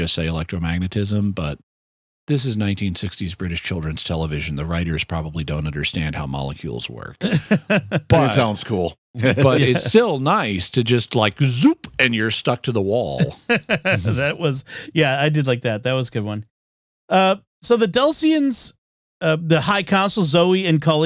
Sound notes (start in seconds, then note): 7.2 laughing; 13.2 laughter